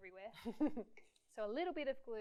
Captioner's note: laughs